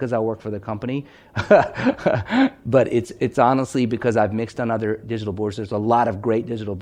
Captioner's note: laughing